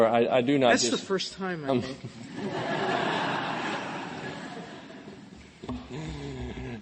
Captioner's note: laughter